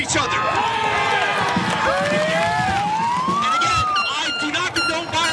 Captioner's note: applause